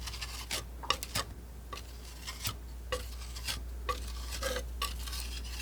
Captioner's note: scratching